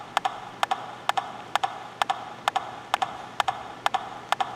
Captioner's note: rhythmic tapping